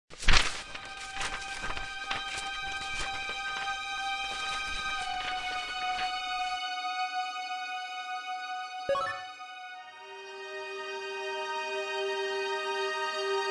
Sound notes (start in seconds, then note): 0.0 suspenseful music; 8.9 video game ding